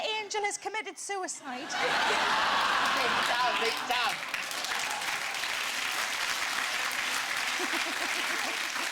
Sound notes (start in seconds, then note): 5.8 audience applauding